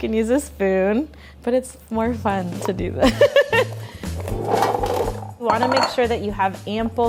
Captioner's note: laughing